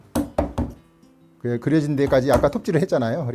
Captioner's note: hammering sound